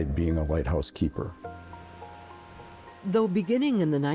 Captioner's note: wind blowing